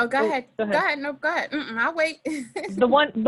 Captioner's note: laughs